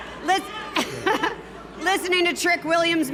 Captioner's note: Steph laughing